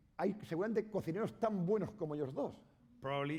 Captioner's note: speaking spanish